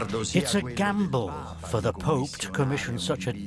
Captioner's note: in Italian